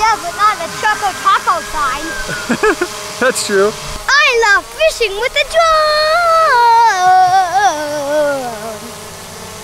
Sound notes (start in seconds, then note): 2.7 laughing